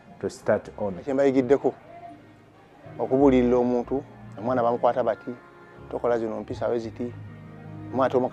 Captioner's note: father, in local language